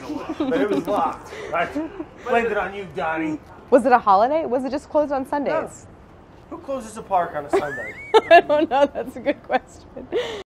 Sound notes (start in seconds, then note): 7.5 laughing